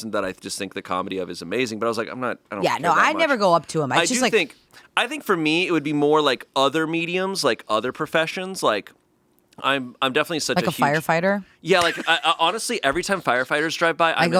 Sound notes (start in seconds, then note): 11.7 laughing